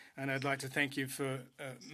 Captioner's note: speaking French